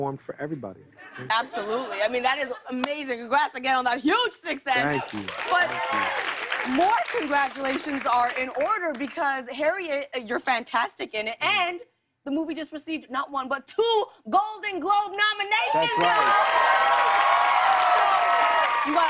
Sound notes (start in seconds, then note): 4.8 cheers and applause; 15.7 cheers and applause